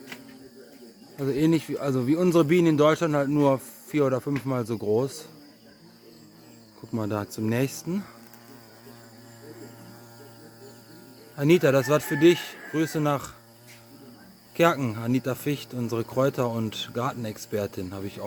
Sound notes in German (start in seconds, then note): none